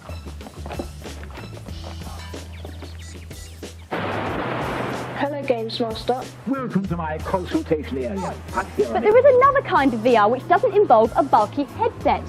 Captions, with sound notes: [Sounds of kid struggling with VR helmet] *thunder* "Hello Gamesmaster" -"Welcome to my Consoletation area....." "But there is another type of VR that doesn't involve a bulky headset"